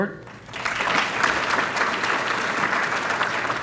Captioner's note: applause